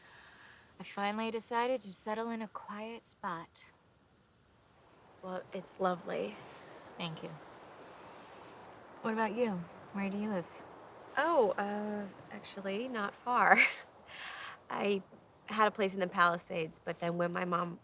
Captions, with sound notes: I finally decided to settle in a quiet spot. - Well, it's lovely. - Thank you. What about you? Where do you live? - Oh, actually, not far. (laughs) I had a place in the Palisades, but then when my mom,